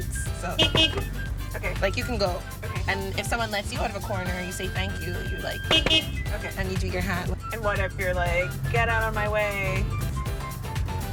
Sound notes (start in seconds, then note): 0.5 horn honks twice; 5.5 horn honks twice; 10.9 horn honks